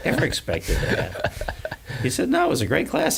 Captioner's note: laughs